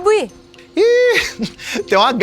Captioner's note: Chico laughs